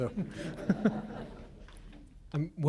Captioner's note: laughter